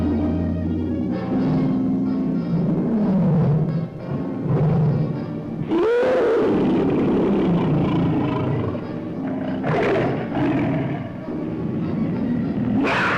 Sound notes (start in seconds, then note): 3.1 lion roars; 5.6 lion screeches